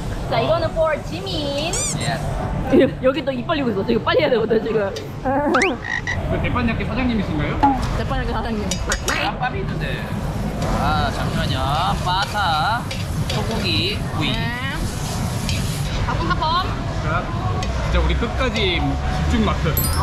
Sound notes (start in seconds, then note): 5.3 laughing